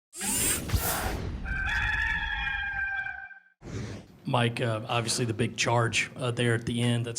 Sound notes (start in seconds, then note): 0.2 whooshing; 1.4 rooster crowing